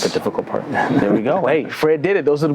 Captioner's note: laughs